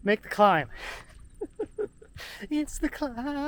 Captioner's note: laughs